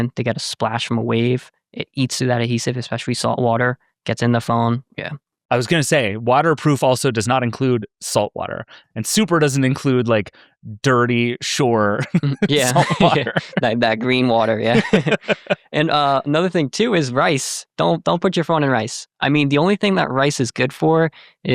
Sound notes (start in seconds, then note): 15.3 both laughing